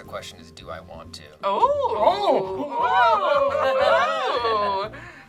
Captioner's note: group awes